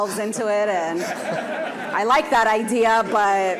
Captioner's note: audience laughing